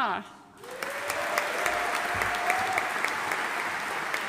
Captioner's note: audience applauding